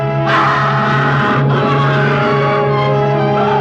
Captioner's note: tense instrumental music; screaming